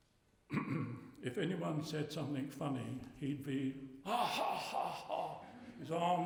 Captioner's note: imitating learie's laugh